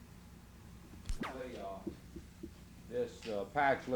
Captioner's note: camera noise